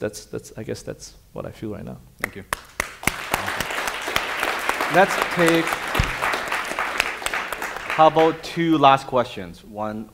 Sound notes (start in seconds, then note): 2.6 audience applauding